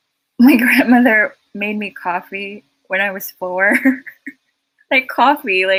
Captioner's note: chuckles